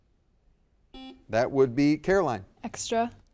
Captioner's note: buzzer dings